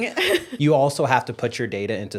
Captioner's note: chuckle